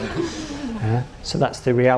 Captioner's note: audience laughs